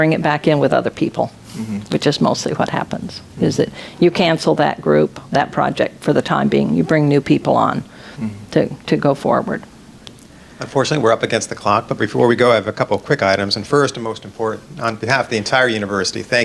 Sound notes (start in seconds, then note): 10.8 voiceover